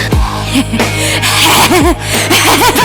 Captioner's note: heavy breathing